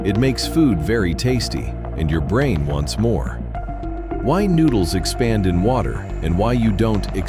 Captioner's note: thoughtful